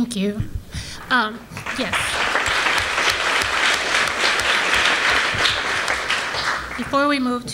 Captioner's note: applause